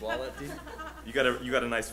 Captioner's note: audience laughs